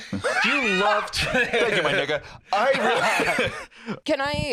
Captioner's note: both laugh